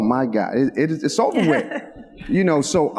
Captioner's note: laughs